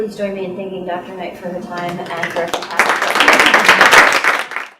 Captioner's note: applause